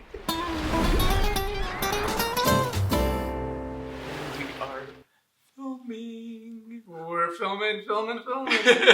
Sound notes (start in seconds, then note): 2.0 swoosh; 2.8 transitional music